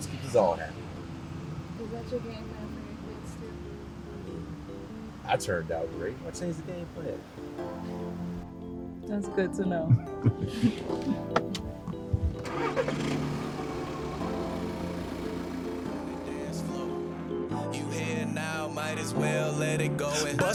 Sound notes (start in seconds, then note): 7.8 soft piano music; 9.8 laughing